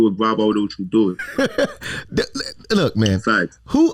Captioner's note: laughs